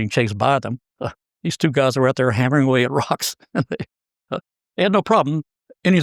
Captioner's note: laugh